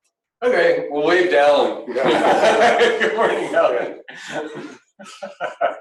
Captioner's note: laughing